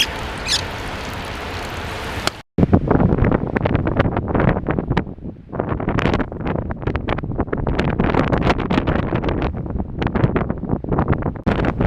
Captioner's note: wind Noise